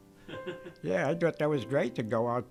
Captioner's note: interviewer chuckles